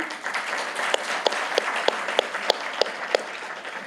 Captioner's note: applause